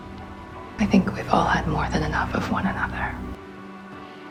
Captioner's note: voiceover